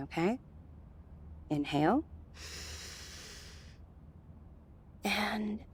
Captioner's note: deep inhale